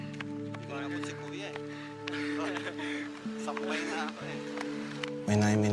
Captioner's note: speaks Filipino